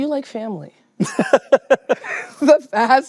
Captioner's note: laughs